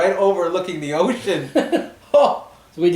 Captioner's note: both laugh